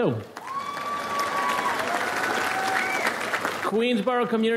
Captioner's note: audience applauds